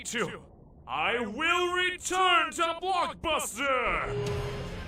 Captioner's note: voice change